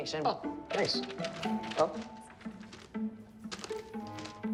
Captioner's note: paper rustling